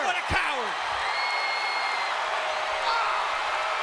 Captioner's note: audience cheering